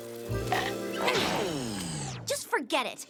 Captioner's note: machine powers down